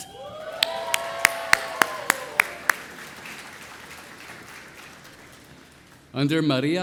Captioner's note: audience cheering; audience applauding